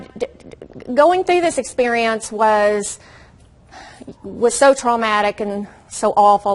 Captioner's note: takes deep breath and sighs